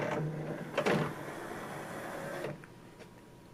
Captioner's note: tray moves out